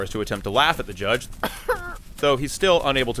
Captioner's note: cough